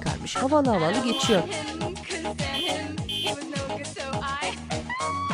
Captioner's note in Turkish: Korna sesi